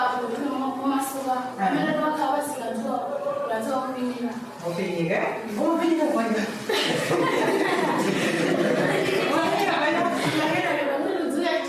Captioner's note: speaking in a global language